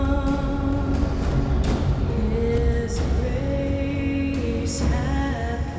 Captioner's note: none